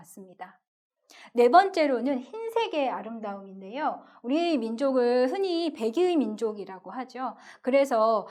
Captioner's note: Korean